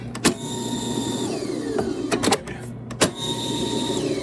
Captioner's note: tape recorder whirring